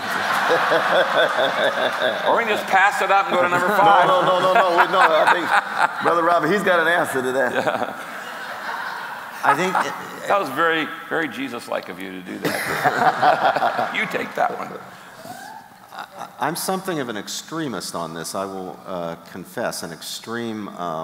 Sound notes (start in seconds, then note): 1.0 audience laughing; 3.8 chuckling; 8.9 chuckling; 9.9 audience laughing; 12.4 laughter